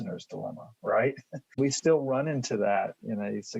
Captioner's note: laughing